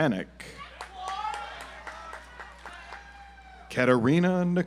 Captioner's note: audience applauds